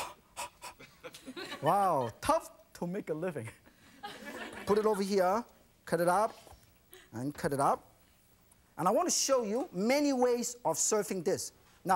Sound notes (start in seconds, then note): 3.7 audience laughs